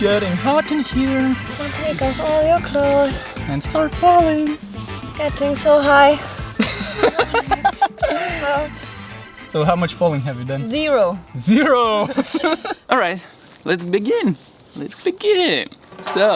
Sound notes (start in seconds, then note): 6.5 man 1 laughs